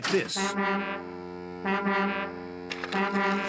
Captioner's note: blaring